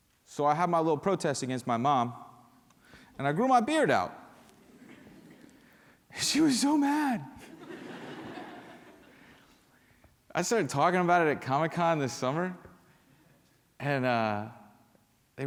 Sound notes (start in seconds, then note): 4.6 laughter